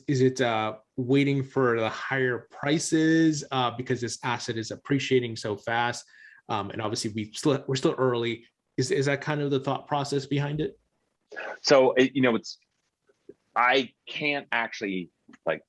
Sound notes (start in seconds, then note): none